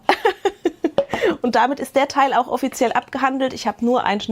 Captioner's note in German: gelächter